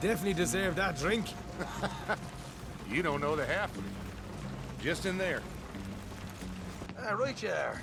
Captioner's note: laughs